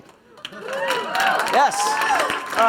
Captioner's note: applause